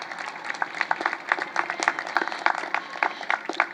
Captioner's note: applause